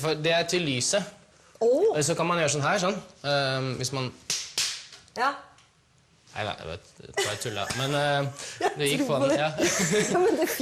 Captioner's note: clapping